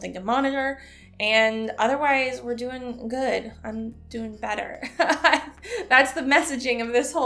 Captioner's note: chuckle